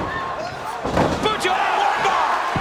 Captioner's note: body thuds